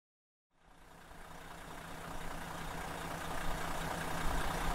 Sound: engine running

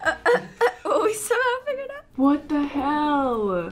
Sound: laughs

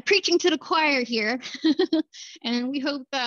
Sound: laughter

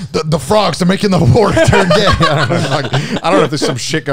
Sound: everyone laughs

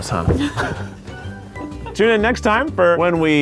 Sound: laughing

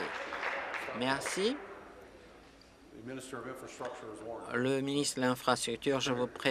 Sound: applause

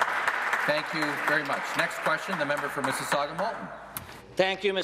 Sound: applause

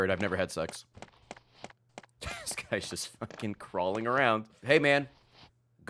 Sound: laughs

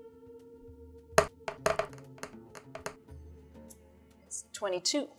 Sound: dice rolling

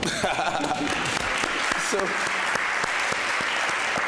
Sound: audience applauding

